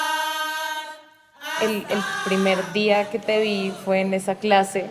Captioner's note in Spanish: Mujer habla